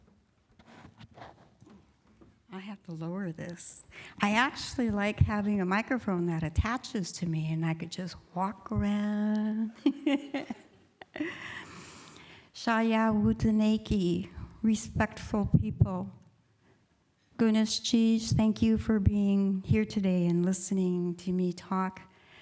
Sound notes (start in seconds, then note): 13.6 speaking indigenous language